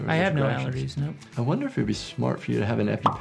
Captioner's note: none